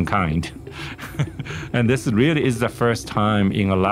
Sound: laughter

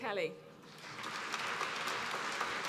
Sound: applause

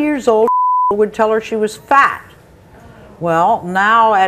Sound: beep

